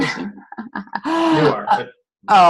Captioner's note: chuckles